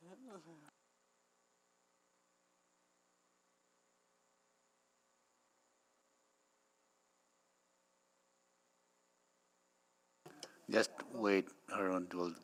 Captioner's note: laughs